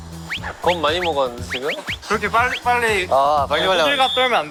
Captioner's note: quickly whoosh whoosh